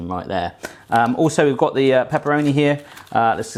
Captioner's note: crinkling